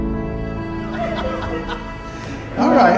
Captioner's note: laughter